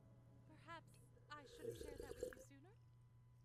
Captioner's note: large sip